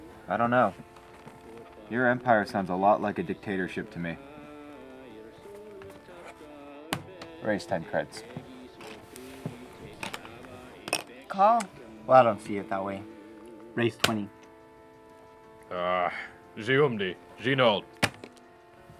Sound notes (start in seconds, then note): 14.9 RED beeps; 15.9 Speaking Huttese